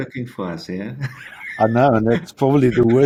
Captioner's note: laughs